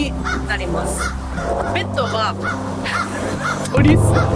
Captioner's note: birds chirping